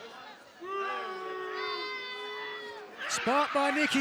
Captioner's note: crowd boos